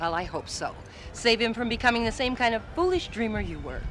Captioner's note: none